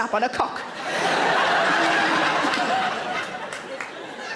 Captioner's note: audience laughs